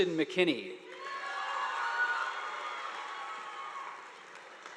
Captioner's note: audience applauding